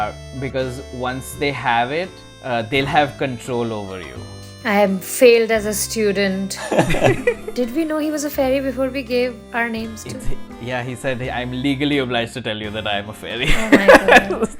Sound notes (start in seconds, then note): 6.6 laughter; 13.4 laughter